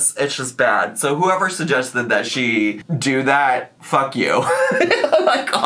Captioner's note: laughs